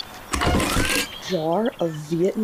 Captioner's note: metal creaking